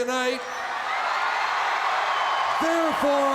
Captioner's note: crowd cheering